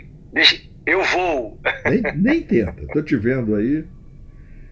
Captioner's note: laughs